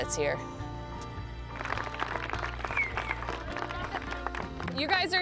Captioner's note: crowd applauding